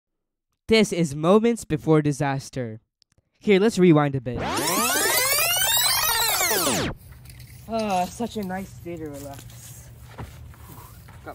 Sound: rewind sounds

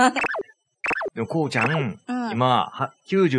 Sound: laughs

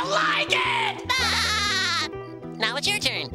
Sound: laughing

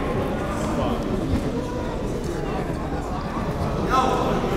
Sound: gymnasium bustles

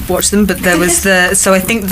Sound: laughing

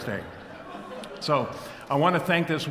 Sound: audience laughs

